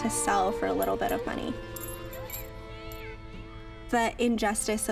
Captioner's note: coins clinking